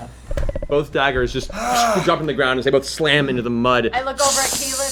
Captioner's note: sizzling sound